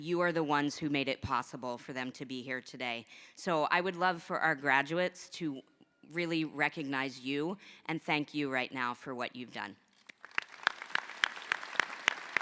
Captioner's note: applause